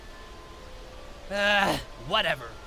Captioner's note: sigh